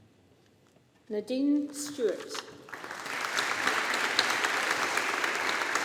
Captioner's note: audience applauding